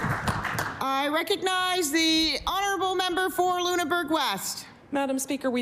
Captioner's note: applause